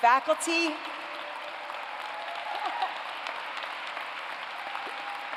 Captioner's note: applause